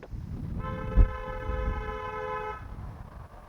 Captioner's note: honk